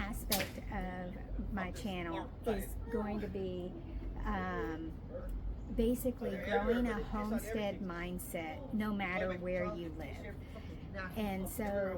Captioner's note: more people talking in the background